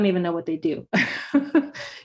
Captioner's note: laughs